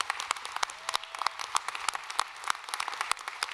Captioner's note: applause